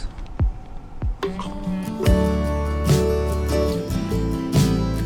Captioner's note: chomping sound`